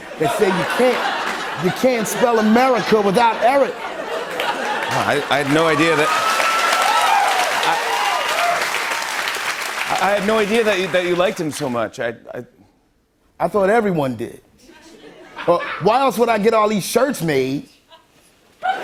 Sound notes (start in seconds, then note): 0.0 laughter; 6.1 cheers and applause; 14.7 light laughter; 18.6 laughter